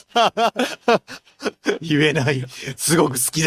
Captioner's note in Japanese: 笑い